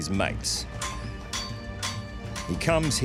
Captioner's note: metal thuds